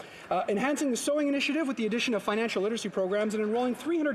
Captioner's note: none